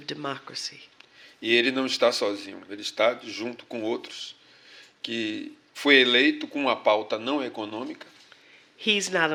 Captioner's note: speaking portuguese